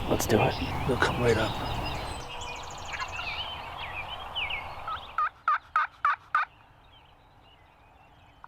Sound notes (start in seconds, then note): 2.7 birds chirp; 2.7 turkey calls